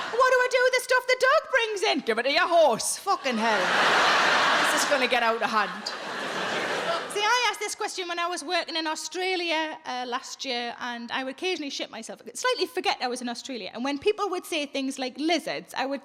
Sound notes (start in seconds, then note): 3.0 audience laughing